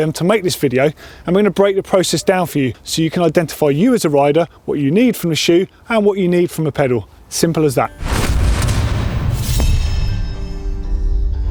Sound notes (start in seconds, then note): 8.0 logo whooshing